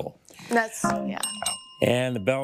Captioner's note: bell dings twice